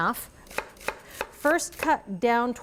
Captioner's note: knife chopping